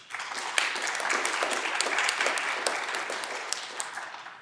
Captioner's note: audience clapping